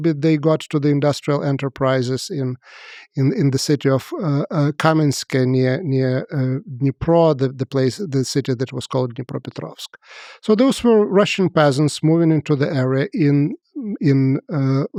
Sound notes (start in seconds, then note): 9.0 speaks foreign language